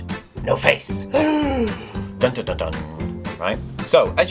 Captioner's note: gasps